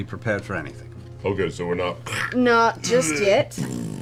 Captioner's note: death noises and farts